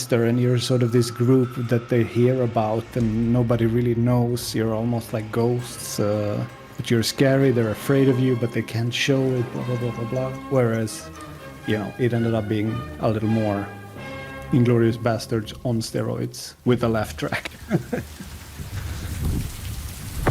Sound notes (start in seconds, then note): 17.3 laughs; 18.4 rainfall